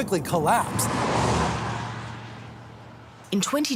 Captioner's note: traffic whooshing